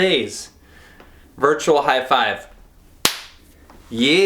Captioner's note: claps